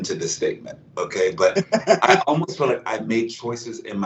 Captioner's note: laugh